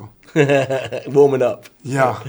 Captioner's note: laughing